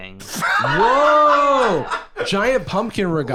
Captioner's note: laughing